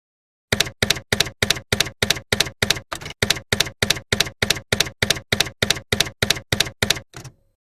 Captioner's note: typewriter keys clacking